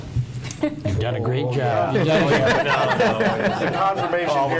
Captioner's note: chattering